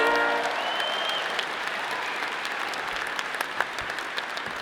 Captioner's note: all applauding